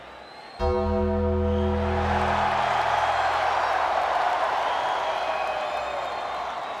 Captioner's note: crowd cheering; bell tolling